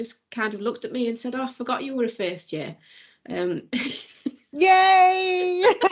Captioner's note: laughs; both laughing